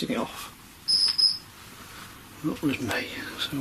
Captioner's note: detector beeping